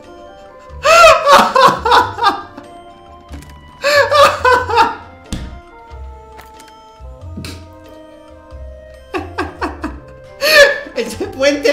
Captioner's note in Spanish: Risas diabólicas